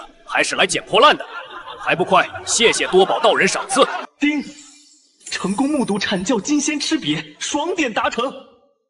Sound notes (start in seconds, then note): 5.1 ding!